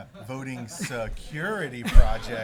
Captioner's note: laughter